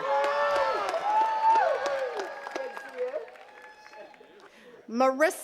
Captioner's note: attendees cheering and clapping